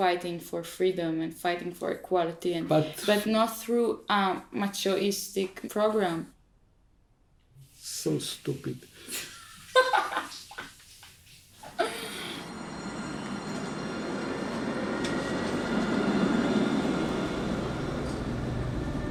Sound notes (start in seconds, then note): 9.1 laughing; 15.5 light orchestral music